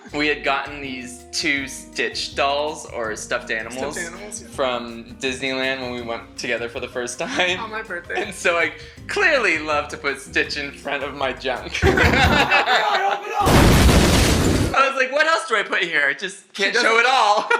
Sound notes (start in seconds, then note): 13.4 crashing; 13.4 banging noise